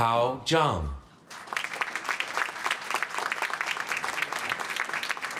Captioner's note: applause